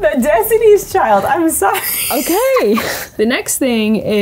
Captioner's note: laughs